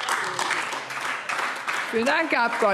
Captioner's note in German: Beifall AfD